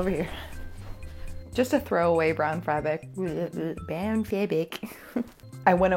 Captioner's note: laughing